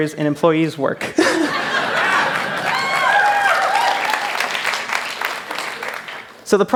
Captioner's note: laughter; cheers